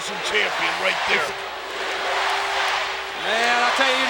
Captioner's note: audience chanting